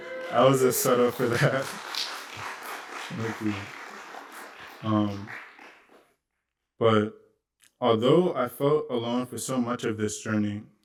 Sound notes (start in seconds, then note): 1.6 applause